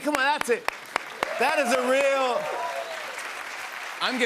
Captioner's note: applause